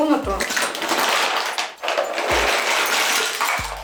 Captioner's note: sound of cosmetics falling